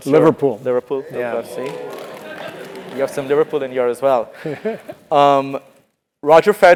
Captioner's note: applause